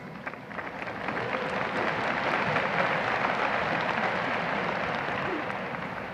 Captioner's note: audience applause